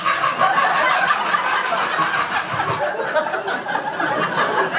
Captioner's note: audience laughter